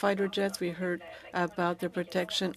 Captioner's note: speaking French